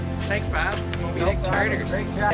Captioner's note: man chuckling